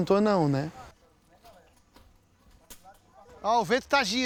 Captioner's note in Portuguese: vozerio ao fundo